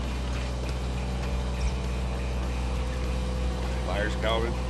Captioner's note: boat motor rumbles